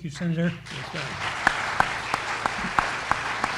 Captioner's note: applause